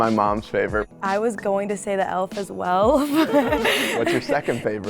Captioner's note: laughs